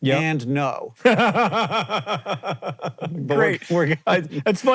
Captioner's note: JOHN laughs